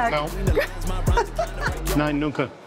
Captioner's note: laughs